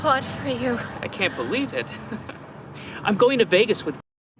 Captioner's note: laughs